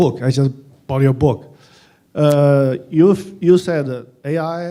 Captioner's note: none